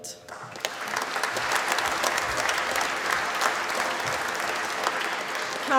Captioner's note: applause